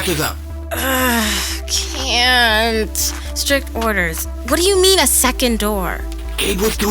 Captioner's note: groans